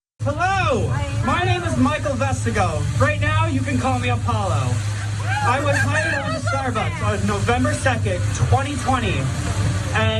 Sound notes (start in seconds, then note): 4.9 laugh